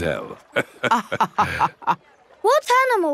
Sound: both laughing

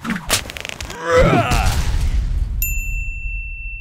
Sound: man yelling; stone slamming; bell dinging

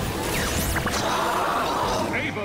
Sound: growls

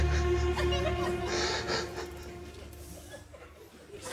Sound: cries

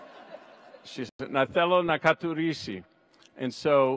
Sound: audience laughs; speaks in Greek

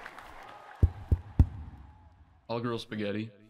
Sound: crowd claps and cheers loud; microphone tapping

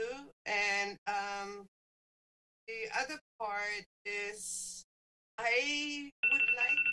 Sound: phone rings

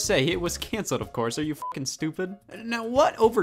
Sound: beep

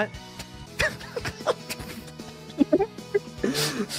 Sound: laughs

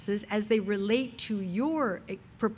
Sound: none

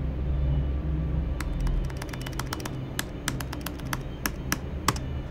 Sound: tab clicks

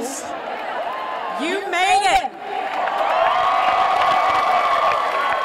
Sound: cheering

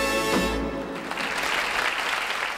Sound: audience applauding

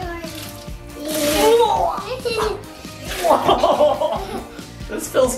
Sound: gurgles

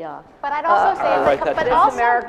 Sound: laughter

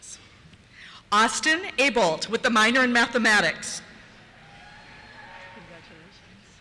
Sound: cheers

